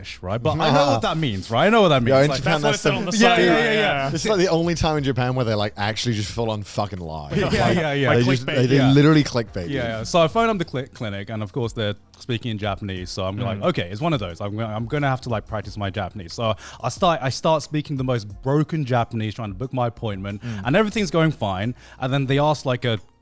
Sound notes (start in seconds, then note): 2.7 hosts laugh